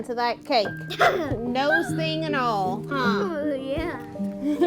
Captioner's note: giggles